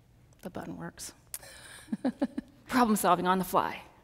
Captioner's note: laughs